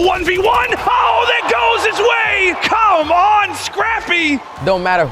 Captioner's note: crowd cheering